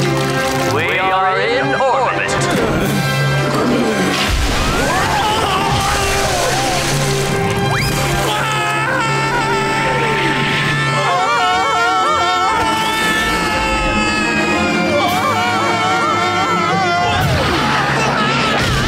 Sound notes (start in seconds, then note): 3.2 toilet flushing; 7.8 screaming; 12.3 screaming continuing